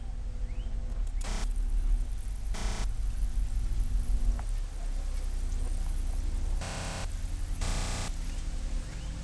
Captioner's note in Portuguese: Áudio pulando, distorção